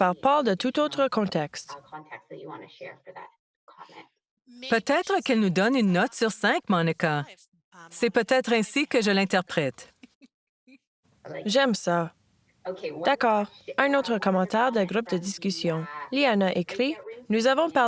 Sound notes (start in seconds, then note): 9.9 rires